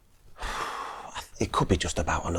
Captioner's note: sighs